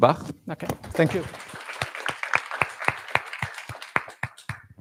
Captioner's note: applause